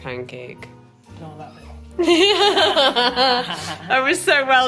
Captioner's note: both laughing